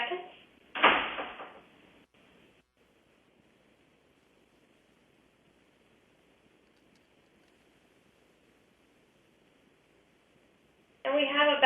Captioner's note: pause